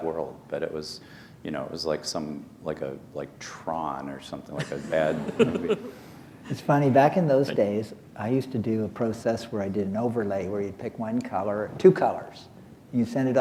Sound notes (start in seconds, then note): 4.5 laughter